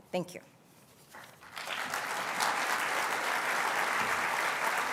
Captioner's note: applause